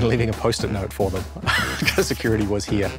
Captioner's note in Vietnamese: tiếng cười